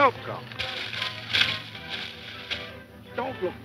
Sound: leaves rustling

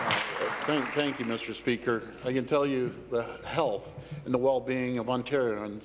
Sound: applause

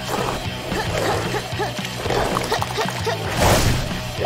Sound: grunting

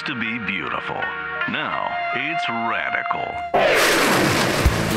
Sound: woosh

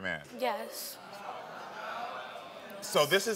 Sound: audience murmurs

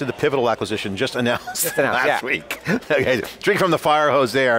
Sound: laughs

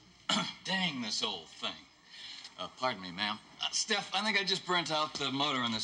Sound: coughs

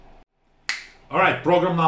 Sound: snap

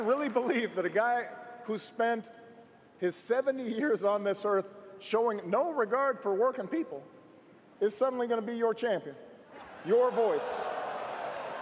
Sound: cheers & applause

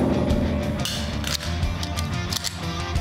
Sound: magazine drops; cocks gun

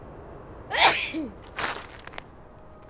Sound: sneeze

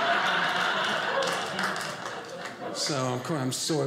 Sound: audience cheering; audience laughing

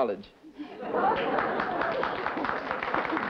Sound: laughter; applause

